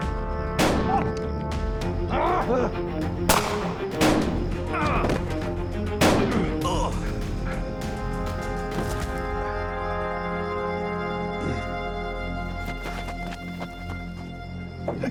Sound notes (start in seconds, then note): 0.2 gunfire; 4.7 groans